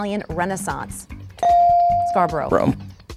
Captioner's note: bell dinging